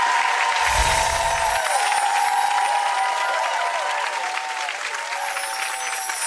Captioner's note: audience cheers; audience applauds; wind chimes ring